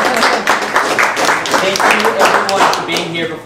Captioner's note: applauding